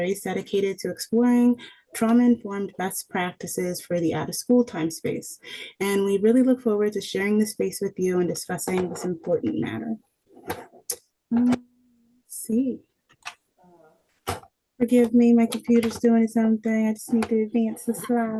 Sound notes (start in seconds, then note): 10.3 objects rustling